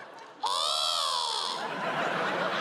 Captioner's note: seagull squawk